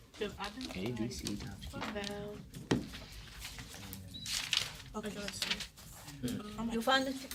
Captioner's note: students murmur